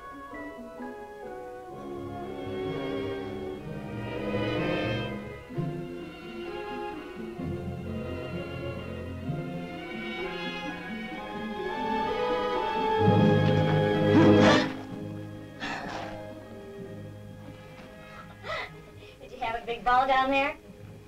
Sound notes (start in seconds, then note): 13.3 gasping; 18.2 laughs